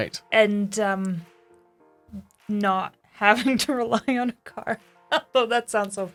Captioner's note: laughs